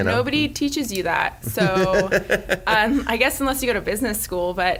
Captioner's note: laughs